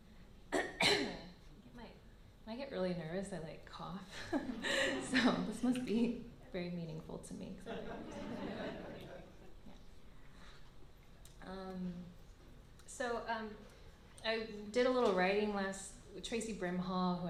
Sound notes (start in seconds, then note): 0.5 coughs; 5.1 laughs; 7.6 laughter